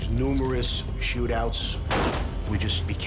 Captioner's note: gun shot